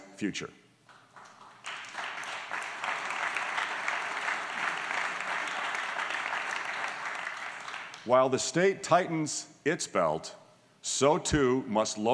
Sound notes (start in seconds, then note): 0.8 applause